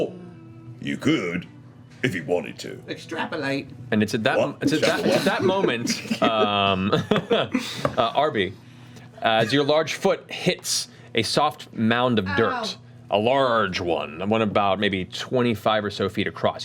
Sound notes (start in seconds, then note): 4.7 laughs